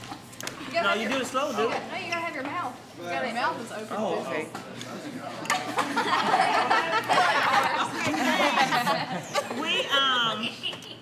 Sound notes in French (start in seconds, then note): 5.5 Rires